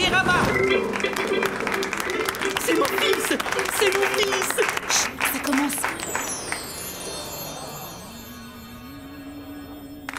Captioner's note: applause